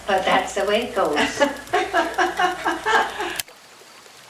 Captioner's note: laughter